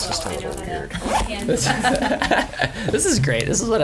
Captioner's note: laughs